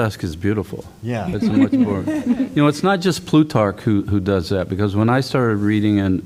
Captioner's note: laughter